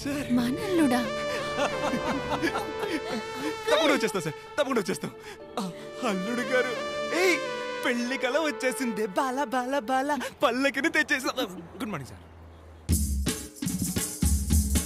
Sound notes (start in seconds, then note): 0.5 Laughs